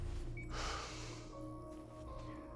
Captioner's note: sigh